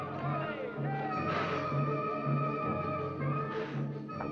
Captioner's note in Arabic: هسهسة اللهب